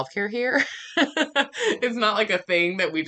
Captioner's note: laughing